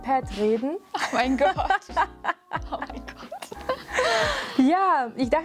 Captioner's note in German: lautes Lachen'